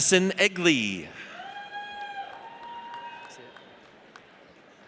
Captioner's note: audience cheers